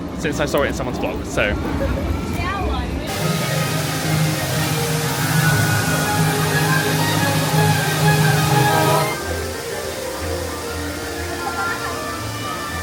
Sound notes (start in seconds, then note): 3.0 water whooshing; 3.0 bright music